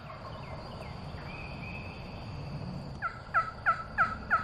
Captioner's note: turkey calling